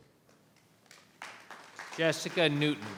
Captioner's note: applauding